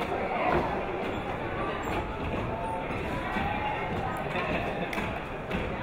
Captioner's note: people talking in the crowd